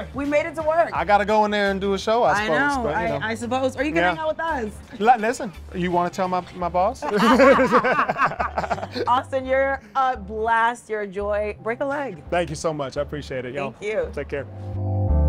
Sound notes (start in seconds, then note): 7.0 laughter